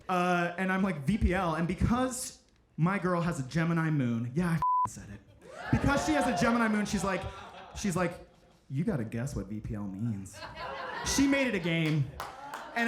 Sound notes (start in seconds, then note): 5.4 audience cheering; 10.4 audience laughing; 11.1 audience applauding